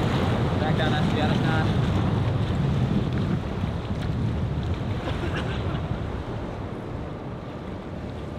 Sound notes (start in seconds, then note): 5.1 coughs